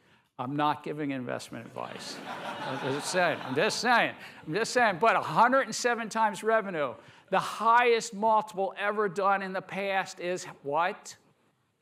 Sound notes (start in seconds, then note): 1.8 laughter